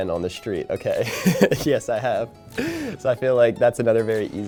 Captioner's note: laughing